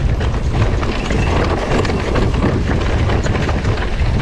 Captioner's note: bike rattling